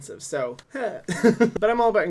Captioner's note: laughs